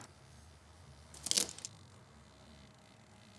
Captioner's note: crackling